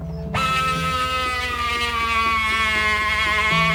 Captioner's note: saw buzzing